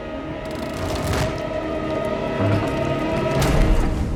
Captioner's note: eerie music; wood creaks; board thuds